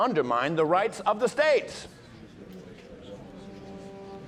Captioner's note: people murmuring